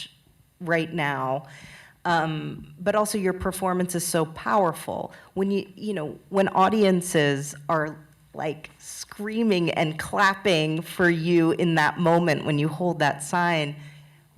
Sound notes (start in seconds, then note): none